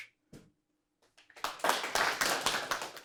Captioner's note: audience applauding